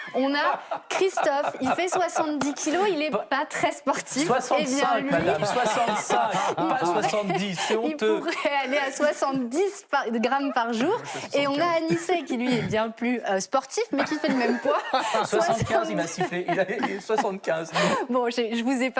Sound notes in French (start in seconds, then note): 3.5 rires; 8.2 rires; 13.3 raclement de gorge; 14.0 rires